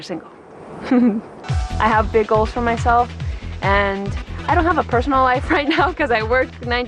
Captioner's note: laughs